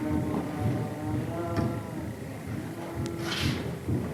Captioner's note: chanting